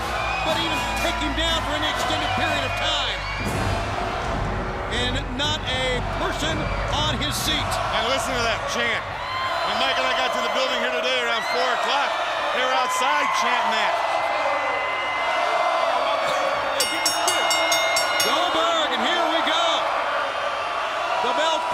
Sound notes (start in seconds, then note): 15.4 crowd chatter; 16.0 crowd cheering; 16.7 bell ringing